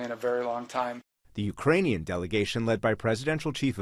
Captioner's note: voice-over